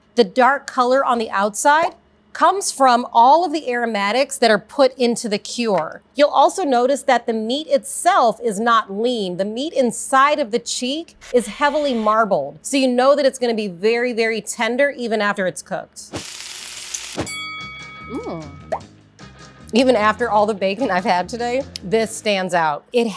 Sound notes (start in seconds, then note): 16.1 pan sizzling; 17.2 bell rings